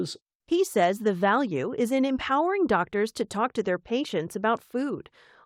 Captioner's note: voice-over